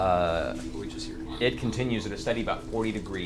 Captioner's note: bat sounds